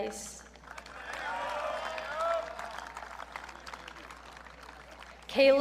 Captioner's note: audience cheering